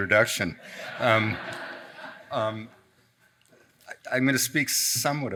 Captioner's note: audience laughs